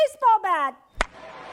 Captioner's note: CRACK of bat!; CHEERS from crowd!